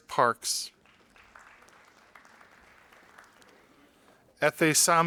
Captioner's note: audience applauding